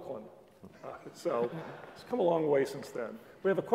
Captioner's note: laugh